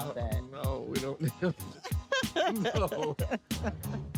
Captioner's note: laughing